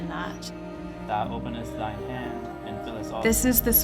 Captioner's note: softly praying